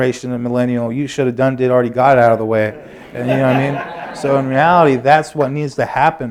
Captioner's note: laughter